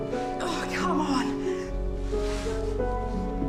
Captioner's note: grunts